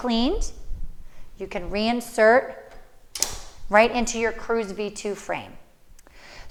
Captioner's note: click sound